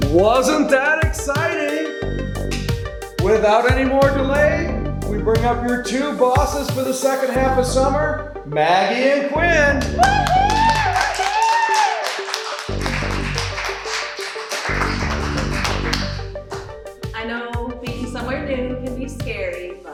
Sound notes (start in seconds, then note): 9.9 Sheila cheering; 11.7 group applauding